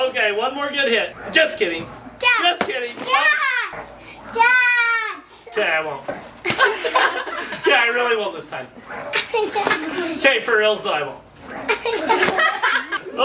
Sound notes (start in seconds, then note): 6.4 laughs; 9.2 giggles; 11.6 crowd laughs; 11.6 giggles